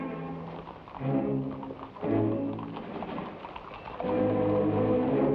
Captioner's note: horse hooves patter